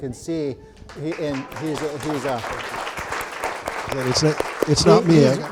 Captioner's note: audience applauding